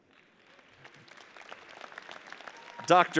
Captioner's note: audience applauds